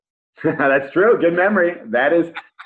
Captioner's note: laughs